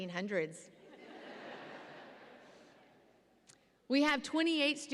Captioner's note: audience laughs